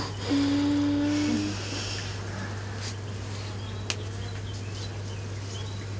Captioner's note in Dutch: kind zucht